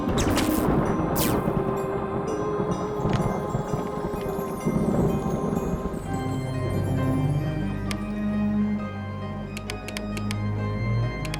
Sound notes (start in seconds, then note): 0.0 electricity zaps; 3.6 thunder rumbles; 8.0 light switch flickers